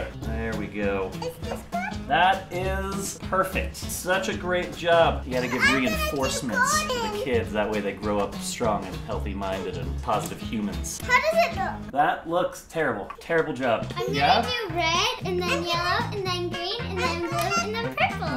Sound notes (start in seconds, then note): 13.2 sarcastic claps